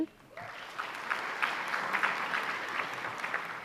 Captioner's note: applause